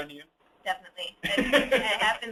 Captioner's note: laughing